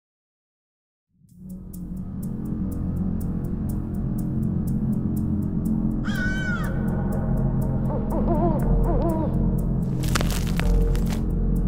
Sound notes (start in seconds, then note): 6.0 crow cawing; 7.8 owl hooting